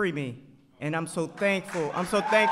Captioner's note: applause